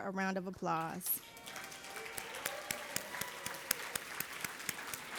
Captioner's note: everybody applauding